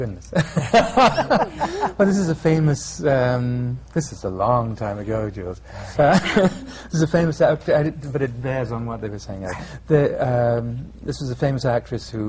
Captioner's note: laughter